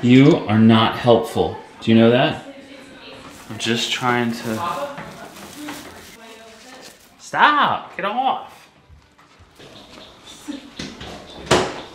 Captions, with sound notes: You are not helpful, do you know that? Just trying to, (rustling) stop, get off!